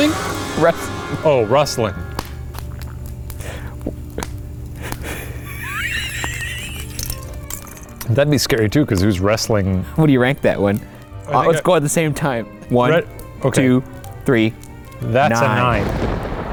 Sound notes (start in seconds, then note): 4.8 chuckles